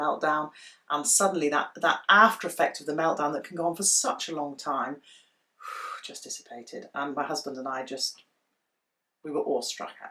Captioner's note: deep breath